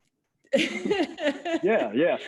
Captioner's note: laughing